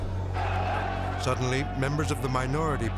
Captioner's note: group chattering angrily